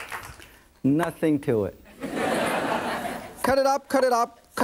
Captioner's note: audience laughing